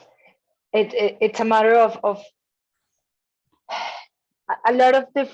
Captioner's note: sighs